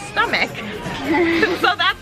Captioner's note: laughing